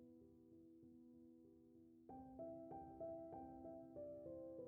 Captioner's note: none